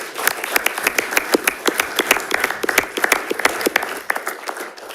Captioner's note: audience applauding